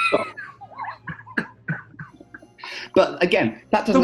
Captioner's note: laughter